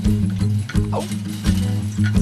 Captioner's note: yelps